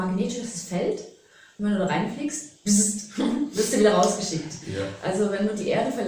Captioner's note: bbzzz